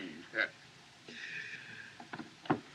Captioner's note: chuckles